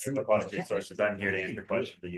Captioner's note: attendee chattering